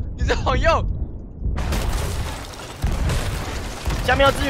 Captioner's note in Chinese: 砲聲